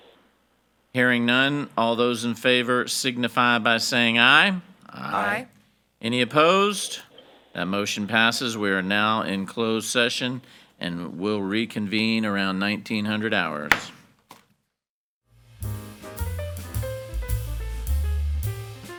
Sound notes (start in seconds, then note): 13.7 hammer slamming; 15.6 cheerful jazz music